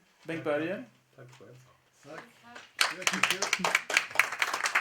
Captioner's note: applause